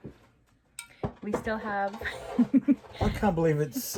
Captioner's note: giggles